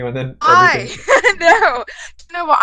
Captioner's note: laughs